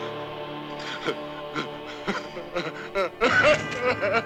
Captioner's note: sobbing